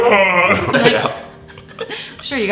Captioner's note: laughing